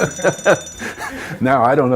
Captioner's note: laughs